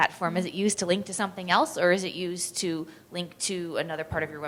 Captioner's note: with microphone